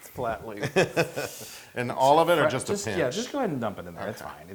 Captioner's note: laugh